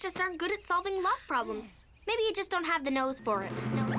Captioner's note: mysterious music; echos